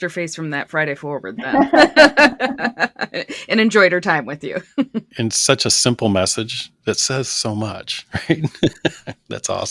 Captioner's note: laughter